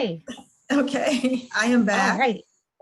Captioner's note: chuckles